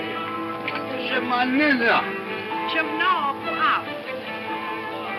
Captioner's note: speaks in foreign language